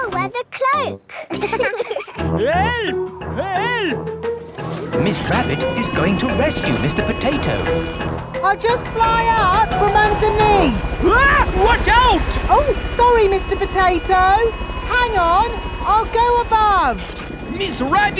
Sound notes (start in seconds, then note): 1.1 laughing; 11.4 screams